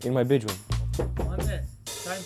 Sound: knock on door

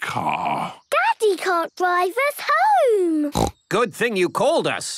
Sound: snorts

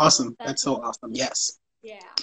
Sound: speaking faintly

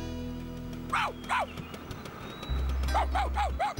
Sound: barking

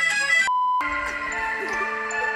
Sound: tone beeps; laughs

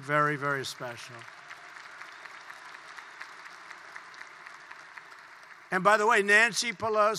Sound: applause

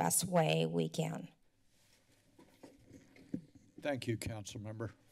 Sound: silence

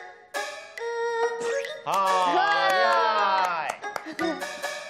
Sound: professional cheering crowd

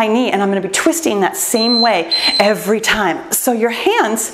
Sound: timer beeps

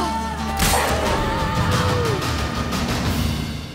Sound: wolf howls; groan

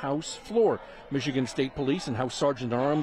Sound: chanting

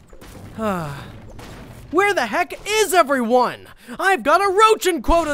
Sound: sighs

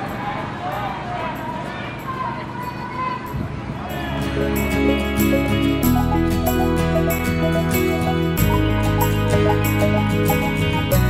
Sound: crowd noise

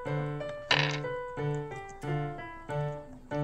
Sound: mysterious dice roll sound

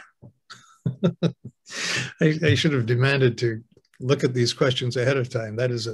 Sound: laughs

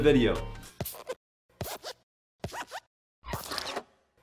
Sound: squeaking

